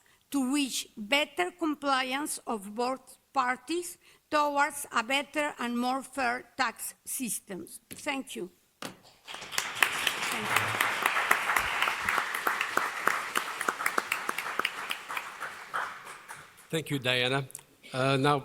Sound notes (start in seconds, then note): 9.2 applause